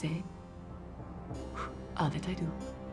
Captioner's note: <i> blows</i>